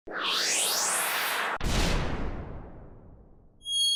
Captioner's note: whooshing tones